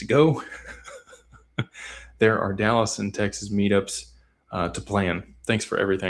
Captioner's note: laughter